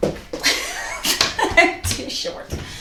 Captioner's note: laughs